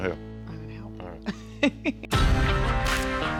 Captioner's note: chuckles